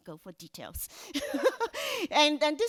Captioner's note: laughs